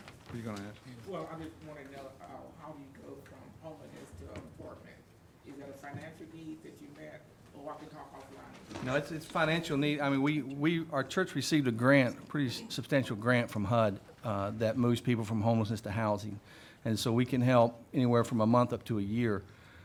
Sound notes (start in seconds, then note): 7.6 speaks faintly